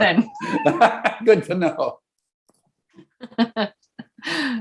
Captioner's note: laughing